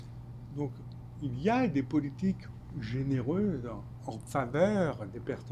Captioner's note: speaking French